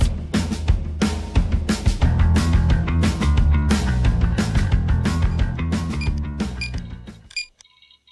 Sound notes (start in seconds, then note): 6.0 beep